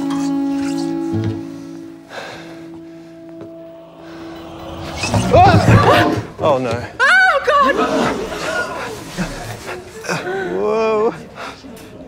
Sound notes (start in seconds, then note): 5.3 gasping